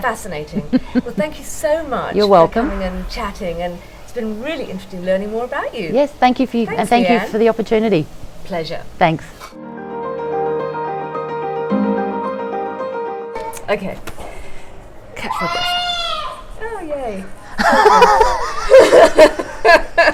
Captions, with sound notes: - Fascinating. Thank you so much. - You're welcome - And then chatting and it's been really interesting learning more about you. - Thank you for the opportunity. - Pleasure. - Thanks. (soft music) - Okay. ( toddler crying) Yay. (laughing)